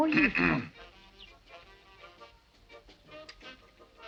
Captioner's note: Paul clears throat